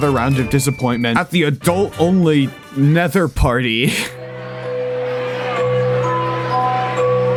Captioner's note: chuckles